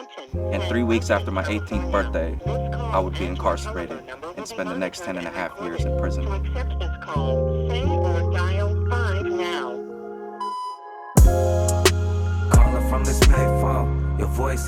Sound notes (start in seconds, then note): 6.4 robotic Voice; 10.3 signal beeps